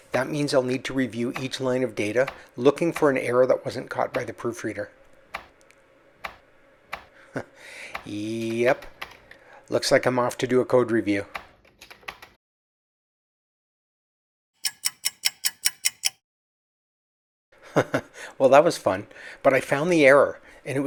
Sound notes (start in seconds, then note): 14.6 ticking clock; 17.6 chuckles